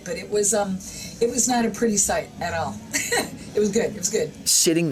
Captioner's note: laughs